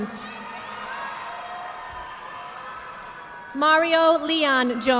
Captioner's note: audience applauding